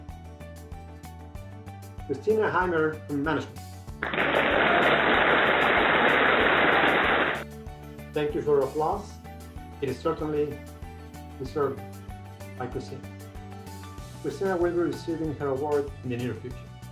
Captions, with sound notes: Christina Heymer in management. (applauding) Thank you for your applause, it is certainly deserving, as you see. Christina Hymer will receive her award in the near future.